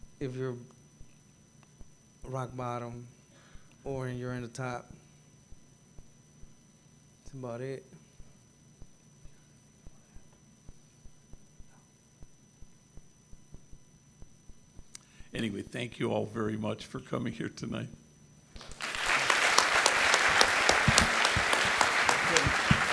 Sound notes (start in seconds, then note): 9.9 whispering; 18.5 gathering clapping